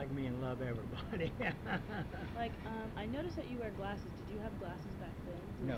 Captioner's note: laughs